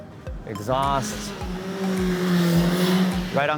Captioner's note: loud engine passing